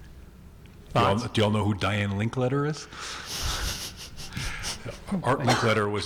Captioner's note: laughs